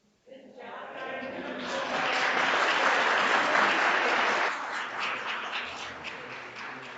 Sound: audience applauding

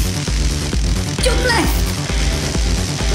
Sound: crackling electricity

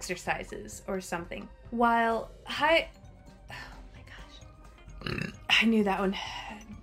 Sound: burp

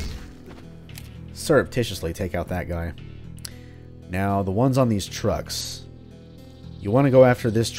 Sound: thwack

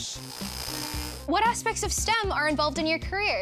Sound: welder buzzes

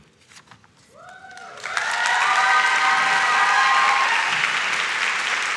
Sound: audience shouts and claps

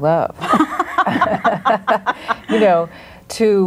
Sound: group laughs

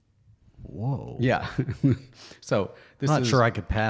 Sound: laughs

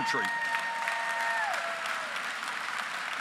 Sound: applause

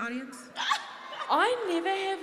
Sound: laughing

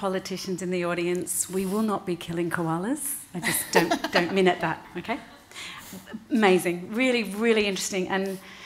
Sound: laughing

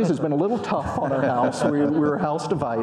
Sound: audience laughing

